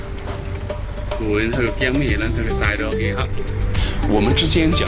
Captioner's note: Cantonese